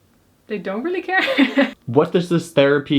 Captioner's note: laughs